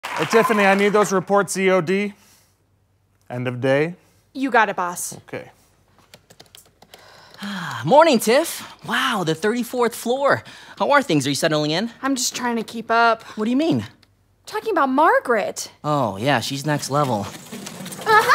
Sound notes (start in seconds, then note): 7.2 sighs